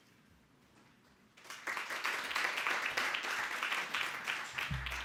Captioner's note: audience applauding